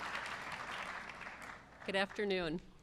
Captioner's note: applause